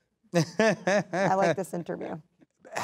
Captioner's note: laughing